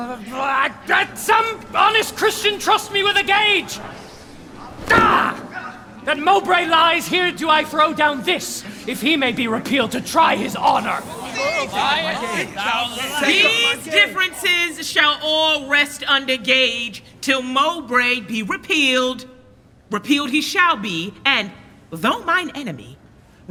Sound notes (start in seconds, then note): 4.8 gage hits the ground; 11.1 clamor